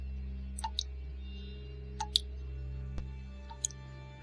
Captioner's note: water drips